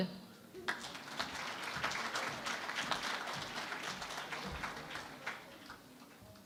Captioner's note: applause